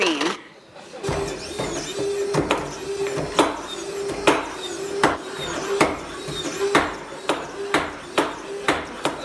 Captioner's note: chopping sounds